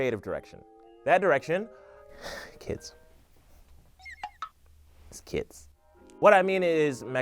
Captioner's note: sighs